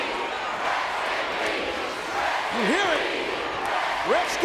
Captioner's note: applause